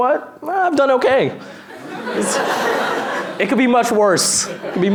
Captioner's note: laughter